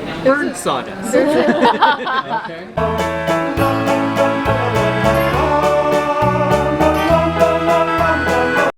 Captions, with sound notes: of burnt sawdust. (all laughing) (whimsical music)